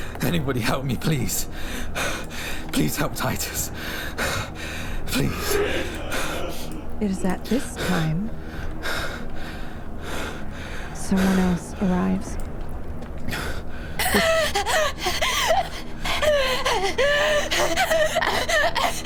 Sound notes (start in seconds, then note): 12.0 crying; 12.7 hyperventilating